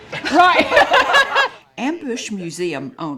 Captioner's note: laughs